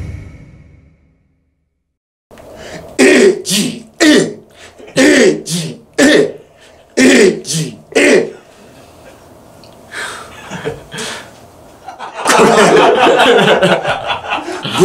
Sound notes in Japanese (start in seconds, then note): 11.8 笑い